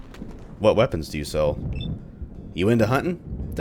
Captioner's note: thunder